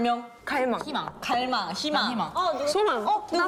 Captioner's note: knock x3